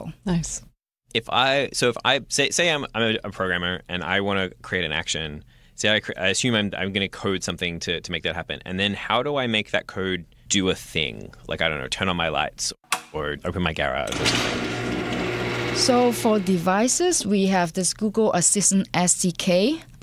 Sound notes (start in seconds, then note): 12.7 light switch click; 14.0 garage opens